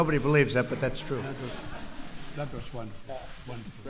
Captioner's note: laughter